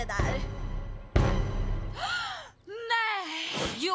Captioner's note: courtney gasps